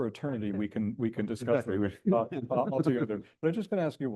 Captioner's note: chuckles